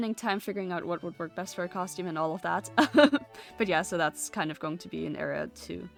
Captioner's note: laughs